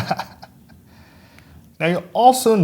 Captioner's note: laughs